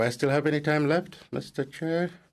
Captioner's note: speaking French